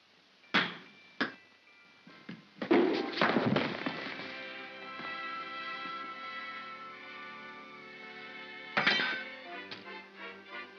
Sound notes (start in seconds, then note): 0.0 soft whimsical music; 0.2 bang & pop; 2.7 pop & thump; 3.7 soft music; 8.7 spoon clatters; 10.5 soft whimsical music